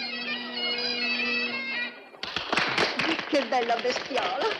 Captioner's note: applause